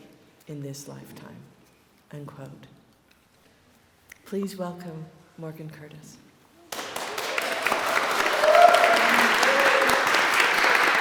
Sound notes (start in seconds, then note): 6.7 applause